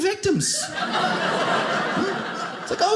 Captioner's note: audience laughing